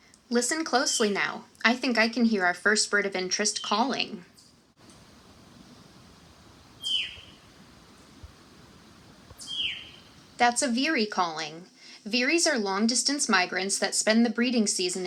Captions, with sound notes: Listen closely now, I think I can hear our first bird of interest calling... [Veery calling] That’s a Veery calling! Veeries are long distant migrants that spend the breeding season